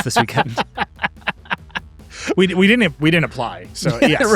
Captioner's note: laughing